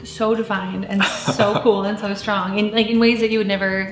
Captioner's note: laughing